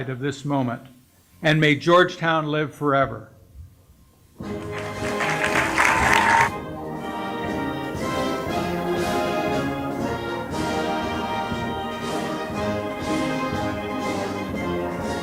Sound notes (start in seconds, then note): 4.5 applause; 7.0 processional music